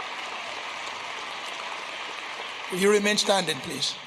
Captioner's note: applause